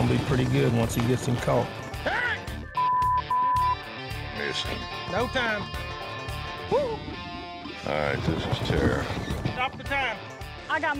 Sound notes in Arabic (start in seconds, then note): 2.0 الصراخ، الشتائم